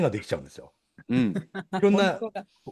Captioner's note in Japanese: 咳払い